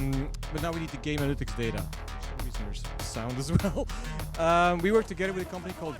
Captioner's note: loud music playing; chuckles